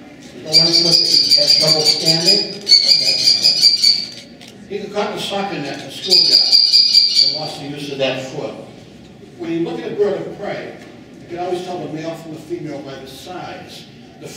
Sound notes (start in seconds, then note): 0.6 kestrel Call; 6.1 kestrel Call